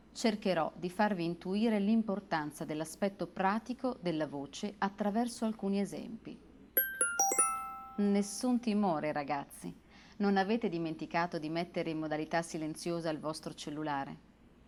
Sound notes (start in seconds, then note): 6.8 text message sound